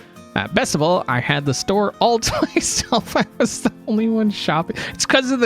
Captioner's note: laughs